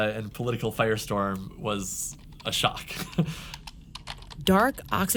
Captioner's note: laughs